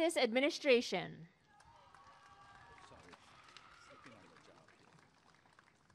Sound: applause and cheering

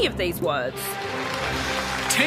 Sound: applause

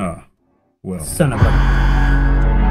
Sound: alarm

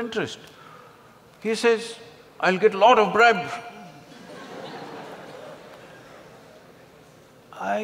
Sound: laughter

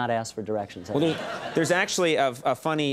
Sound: crowd laughing

